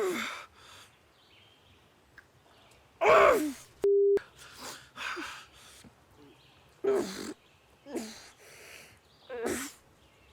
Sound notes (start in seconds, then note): 5.7 groaning